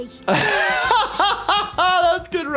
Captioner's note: laughing